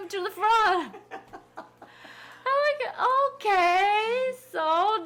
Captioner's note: people laughing